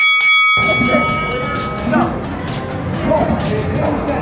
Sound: bell ringing

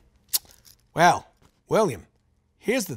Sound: clicks tongue

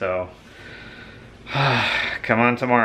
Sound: sighs

